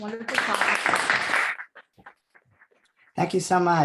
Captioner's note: applause